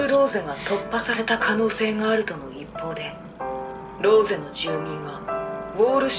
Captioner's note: Attack on Titan Japanese audio